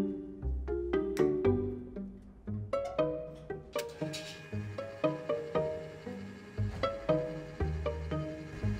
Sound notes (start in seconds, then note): 3.7 paper shredder